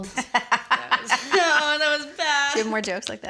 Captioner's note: laughter